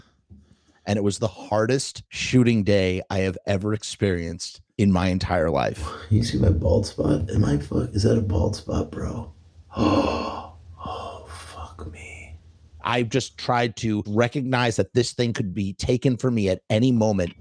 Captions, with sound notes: And it was the hardest shooting day I have ever experienced in my entire life. Can you see my bald spot? Am I fuck- Is that a bald spot, bro? [Gasps] Oh, fuck me... I just tried to recognize that this thing could be taken for me at any moment.